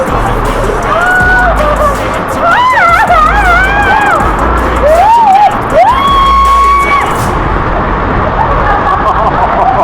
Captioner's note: laugh; scream; laugh